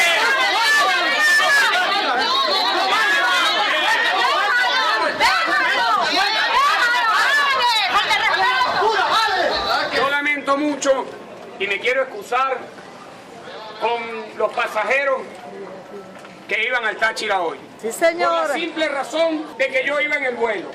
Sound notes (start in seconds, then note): 1.1 woman screaming: "leave him alone!"